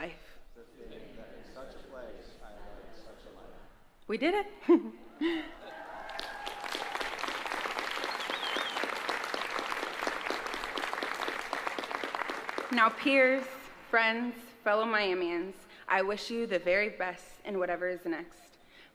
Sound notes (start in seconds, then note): 9.2 applause